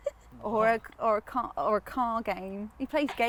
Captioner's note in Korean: 웃음